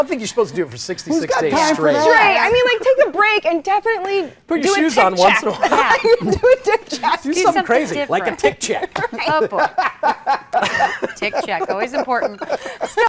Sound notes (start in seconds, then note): 5.2 laughter